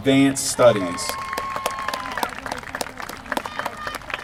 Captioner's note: applause